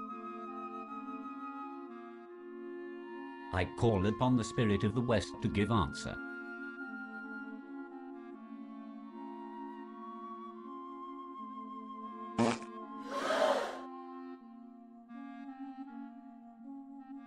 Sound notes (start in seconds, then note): 9.4 loud fart; 13.0 gasp